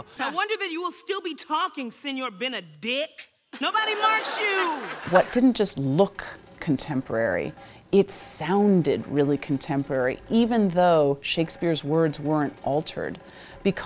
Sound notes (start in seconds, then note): 3.6 audience laughs